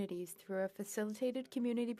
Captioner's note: speaking French